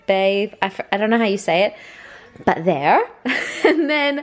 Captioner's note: laughs